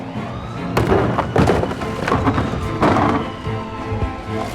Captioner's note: garbage can thudding